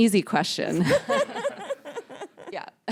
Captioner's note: laughter